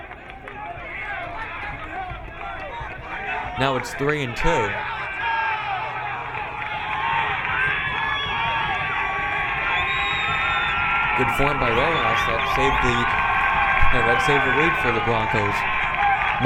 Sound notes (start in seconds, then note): 0.3 crowd cheering; 6.1 crowd yelling